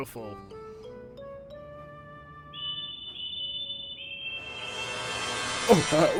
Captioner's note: bill and ben whistle